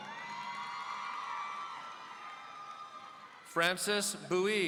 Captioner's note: audience cheering